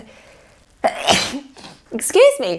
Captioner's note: sneeze